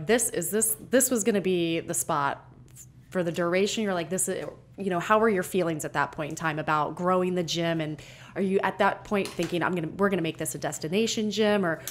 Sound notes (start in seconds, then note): none